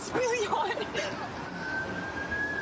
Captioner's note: siren wailing